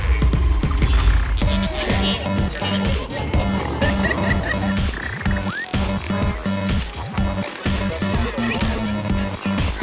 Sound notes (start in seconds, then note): 3.3 crowd laughing